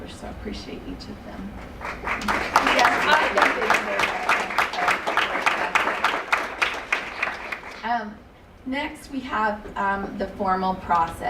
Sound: applause

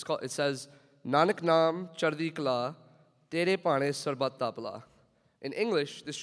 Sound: speaking in foreign language

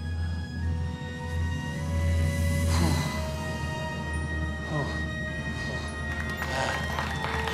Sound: moaning; whistles

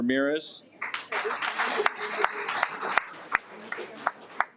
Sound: audience applauds

